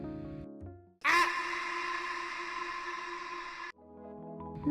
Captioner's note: echoing “Ah!” sfx